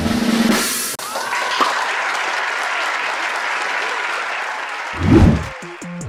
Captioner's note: crowd cheering